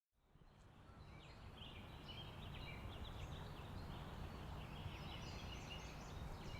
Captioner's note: birds chirping